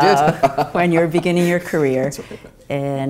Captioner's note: laugh